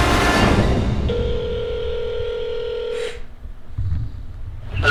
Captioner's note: phone rings